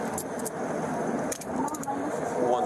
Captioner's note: speak in Foreign language